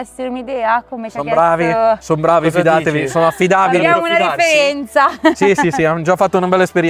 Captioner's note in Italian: risate